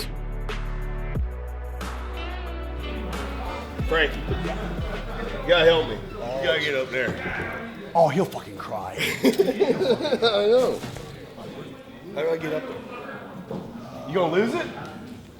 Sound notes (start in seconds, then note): 8.6 laughing